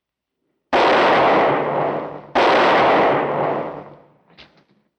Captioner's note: gunshots